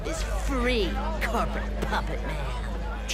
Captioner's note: crowd chatter; dark music